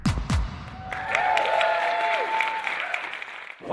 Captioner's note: cheers and applause